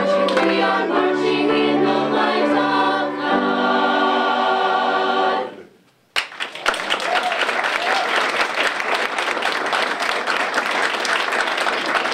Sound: applause

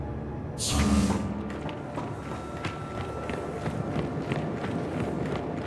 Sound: wind howling

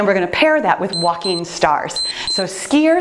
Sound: timer beeps

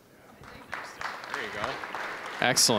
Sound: applause

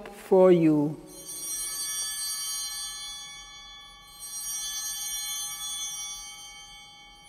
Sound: altar bell ringing

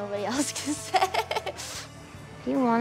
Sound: laughs

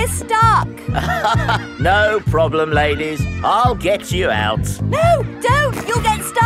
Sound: chuckles

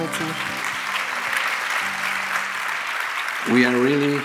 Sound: applause

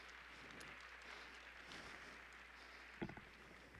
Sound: applause

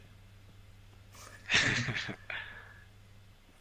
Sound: both snigger

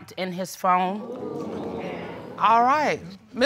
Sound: crowd crinjes

